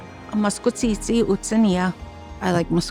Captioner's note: speaking Cree